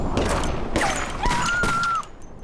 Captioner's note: screams